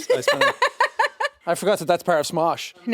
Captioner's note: laughing